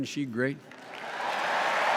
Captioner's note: cheers and applause